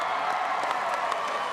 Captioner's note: applause